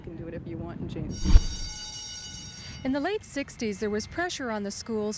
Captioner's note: school bell rings